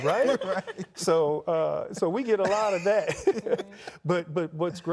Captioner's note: laughs